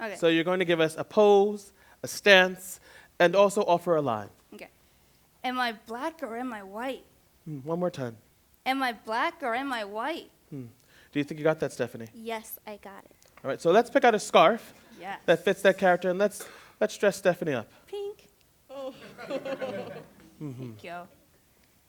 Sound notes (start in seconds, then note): 18.7 laughs; 18.8 laughter